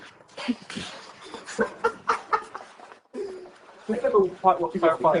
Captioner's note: laughter